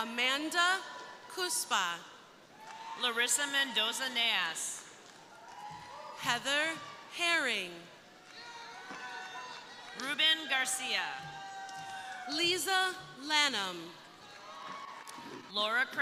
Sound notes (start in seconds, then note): 0.0 crowd cheering; 2.6 crowd applauding; 5.1 crowd cheering; 14.0 crowd cheering